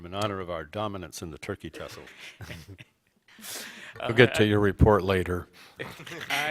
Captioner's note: laughter; laughter